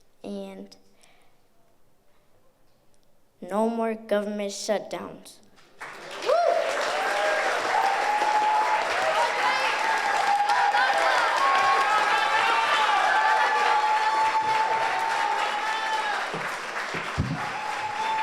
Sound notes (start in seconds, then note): 6.5 audience applauds; 10.9 audience cheers